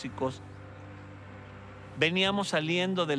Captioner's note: tractor rumbling